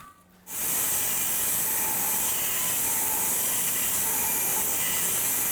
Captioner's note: electric saw screeching